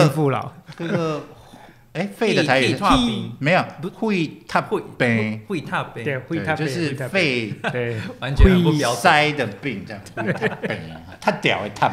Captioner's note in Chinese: 台語